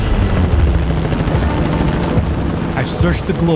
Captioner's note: helicopter thrumming